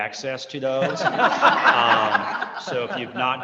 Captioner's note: chuckling